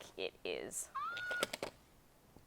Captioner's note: Elmo laughing